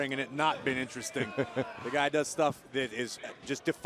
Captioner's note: laughter